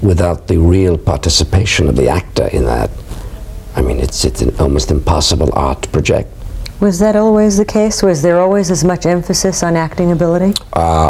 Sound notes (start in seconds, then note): none